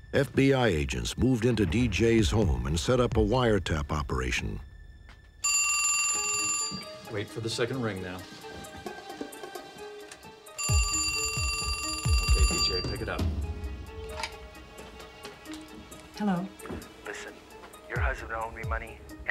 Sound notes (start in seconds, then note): 10.5 phone rings; 17.2 on phone